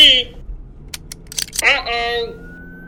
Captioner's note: guns realoding